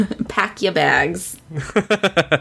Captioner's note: laughs